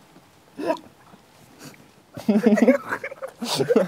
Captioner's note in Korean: ㅎㅎㅎㅎ